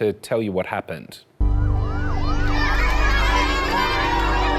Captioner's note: cheering